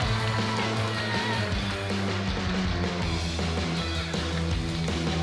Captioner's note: crowd cheering